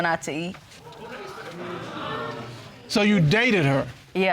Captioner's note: audience sighs